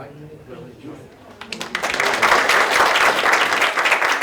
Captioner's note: applause